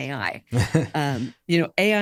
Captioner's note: laughs